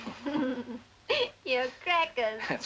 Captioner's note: laughs